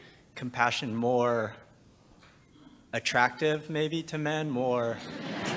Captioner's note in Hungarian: nevetés